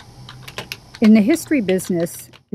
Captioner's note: typewriter clicks